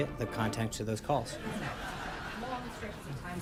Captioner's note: laugh track